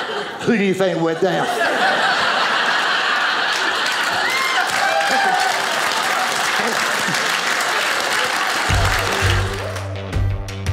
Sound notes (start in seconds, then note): 0.0 audience laughing; 1.9 audience cheers